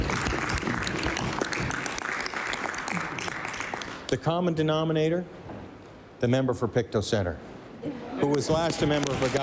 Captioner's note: applause